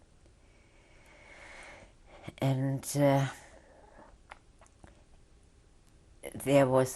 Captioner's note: sighs